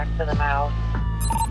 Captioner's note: digital beeps